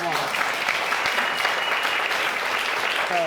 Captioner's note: audience applauding